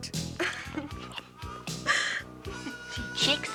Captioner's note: claire chuckling